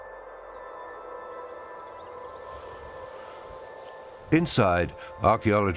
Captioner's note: ominous music; birds chirping